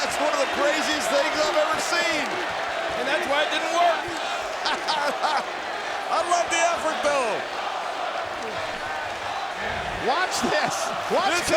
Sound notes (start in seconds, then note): 4.4 laughs